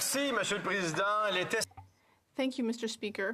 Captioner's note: some Applause